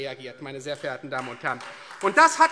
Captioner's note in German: Beifall Freie Demokraten